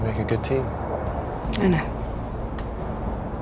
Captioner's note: voiceover